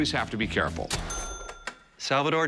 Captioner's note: cash register bell